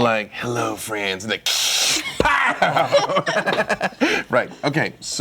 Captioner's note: laughs